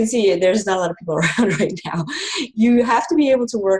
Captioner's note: laughing